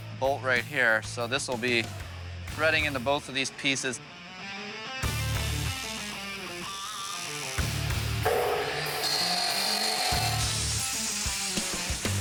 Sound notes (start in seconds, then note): 8.7 saw whirring